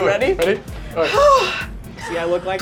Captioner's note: sighing